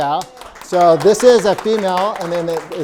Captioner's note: audience applauding and cheering